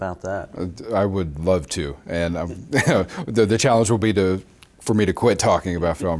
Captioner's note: laughs